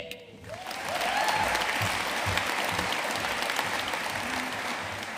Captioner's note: audience cheering and applauding